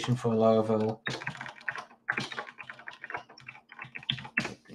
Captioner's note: keyboard clicks